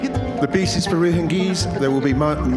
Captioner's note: faintly speaking